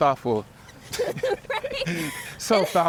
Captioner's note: both laugh